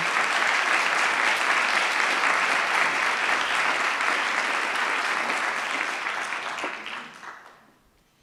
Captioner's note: applause